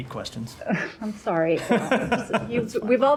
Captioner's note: laughter